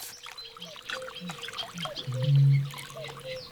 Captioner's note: birds singing